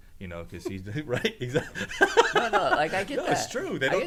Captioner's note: laughs